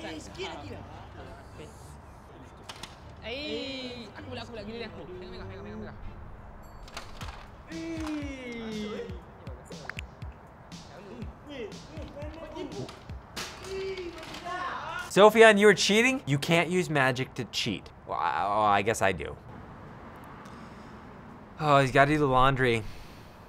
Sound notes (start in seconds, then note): 0.2 speaks in foreign language; 18.2 stammers